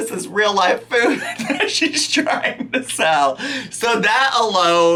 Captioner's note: laughing